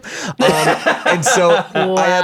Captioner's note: laughs